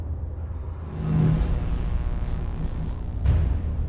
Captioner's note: sword scraping; energy whirring